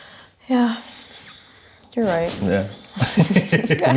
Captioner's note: sighs